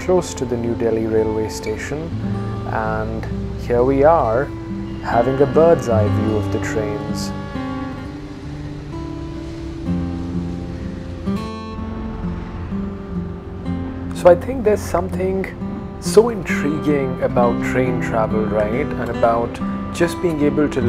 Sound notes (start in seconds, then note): 7.3 train horn honking